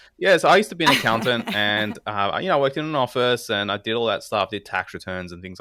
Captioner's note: laugh